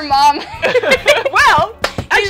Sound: laughing

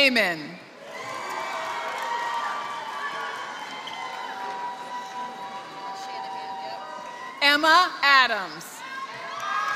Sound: applause; applause

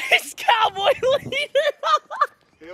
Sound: laughs

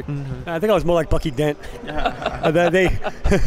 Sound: laughing; laughs

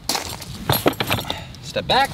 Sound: footsteps on gravel; metal clanking

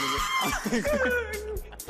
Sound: dying of laughter

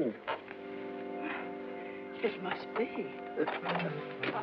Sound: sighs

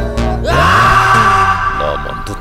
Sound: screams

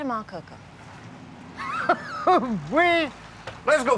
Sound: laughing

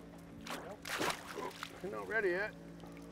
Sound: fish splashing

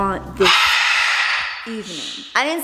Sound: Rocky screams loudly

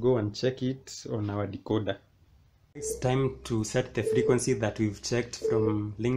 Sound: low frequency beeping sound

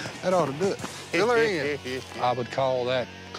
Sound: laughing

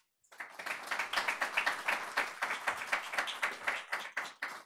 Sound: audience applauding

